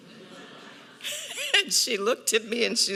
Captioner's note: audience laughs